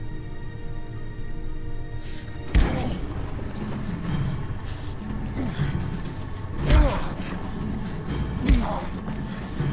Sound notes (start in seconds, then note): 2.5 Jack grunting; 2.5 punches thudding